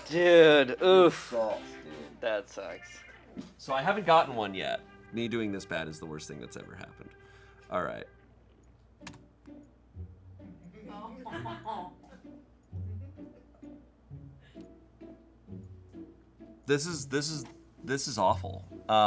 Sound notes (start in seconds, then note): 9.0 key clacking; 9.0 soft music; 11.2 laughing